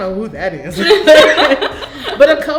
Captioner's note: laughing